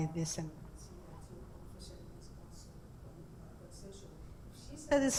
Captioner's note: speaking muffled by intermittent microphone